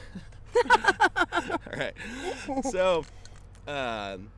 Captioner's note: laughs